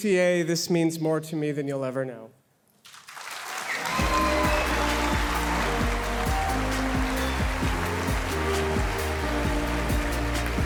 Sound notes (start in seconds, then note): 3.1 audience cheering; 3.9 cheerful music